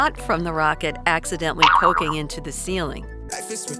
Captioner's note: bounce sound effect